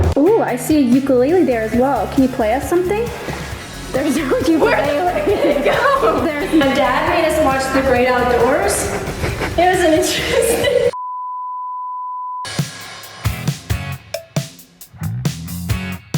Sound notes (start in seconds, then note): 3.9 laughs softly; 13.2 upbeat music playing